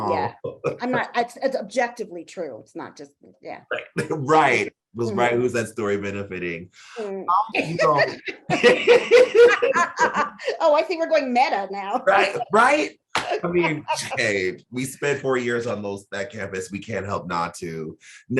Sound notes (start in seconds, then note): 7.0 laughing